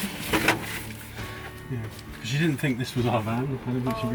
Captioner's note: chit-chat